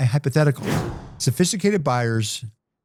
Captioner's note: whooshes